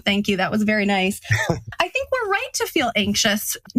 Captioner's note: laugh